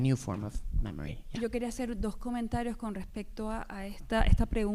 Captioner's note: speaking spanish